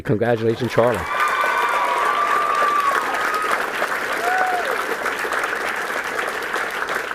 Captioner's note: applause